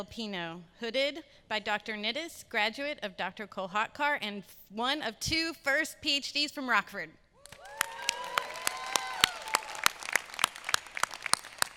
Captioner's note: applause